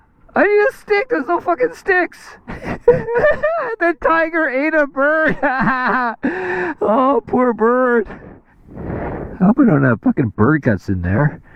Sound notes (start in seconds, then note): 2.4 laughs